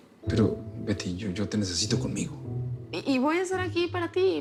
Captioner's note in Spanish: none